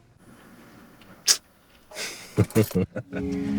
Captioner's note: Janie smacks